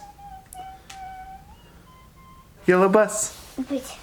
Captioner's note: humming